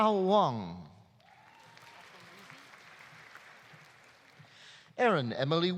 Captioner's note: audience applauding; audience cheering